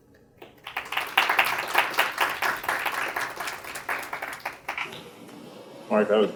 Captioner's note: applause